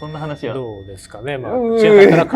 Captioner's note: laughs